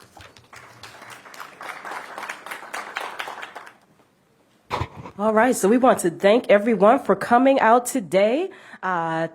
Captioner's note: applause